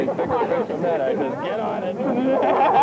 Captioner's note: laughter